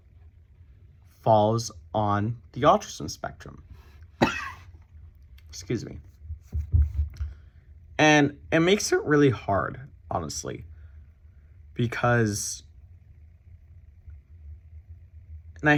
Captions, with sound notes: falls on the autism spectrum. (coughs) Excuse me. And it makes it really hard, honestly. Because...